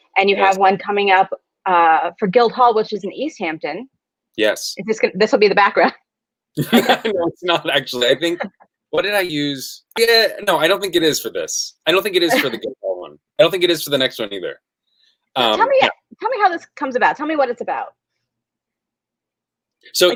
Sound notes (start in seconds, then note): 6.6 laughs